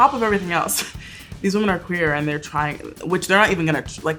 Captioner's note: chuckles